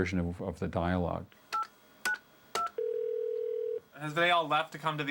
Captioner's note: beeping, Line Ringing